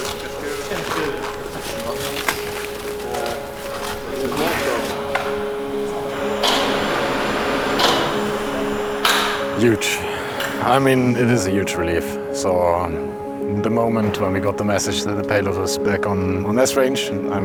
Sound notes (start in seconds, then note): 1.2 snow thuds; 6.5 bright music continues